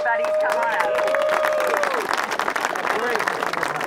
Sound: applause, whoops, voices talking

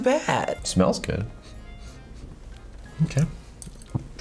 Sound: sniffs

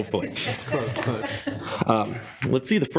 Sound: people chuckle

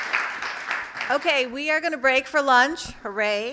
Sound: applause

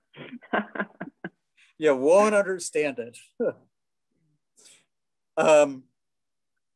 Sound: chuckling; chuckling

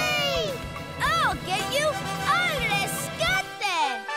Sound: off-screen voice

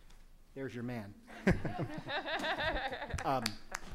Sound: laughing

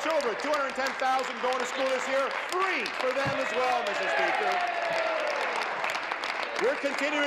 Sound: applause

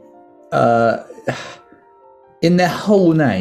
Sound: sighs

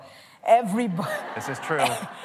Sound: laughter

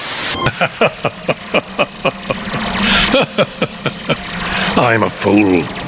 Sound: laughs

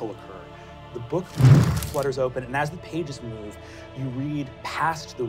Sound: wooshing

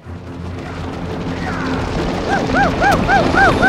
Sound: stampeding hoofs; hooting and calling

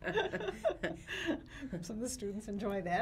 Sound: laughs

